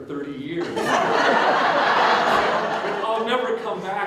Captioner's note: audience Laughter